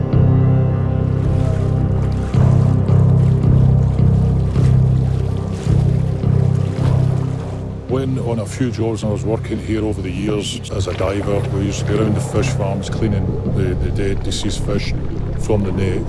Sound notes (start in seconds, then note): 2.1 water splashing